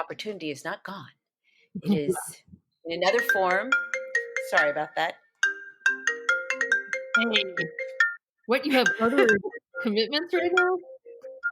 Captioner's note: phone ringing